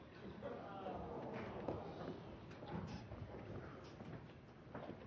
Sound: audience jeering

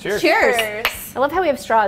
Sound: glass clanks

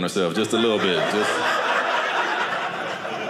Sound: audience laughing

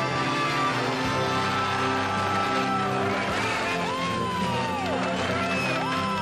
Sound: cheers

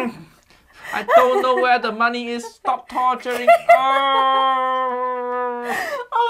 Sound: Uncle Roger groans; niece laughs; groans

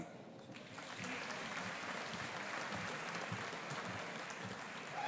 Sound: audience applauding

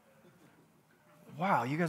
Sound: congregants chuckling

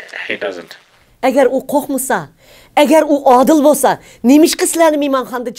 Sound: speaks in foreign language

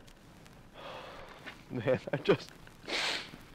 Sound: exhales

